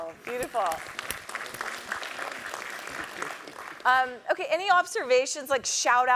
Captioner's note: applause